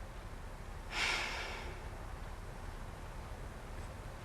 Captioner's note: sighs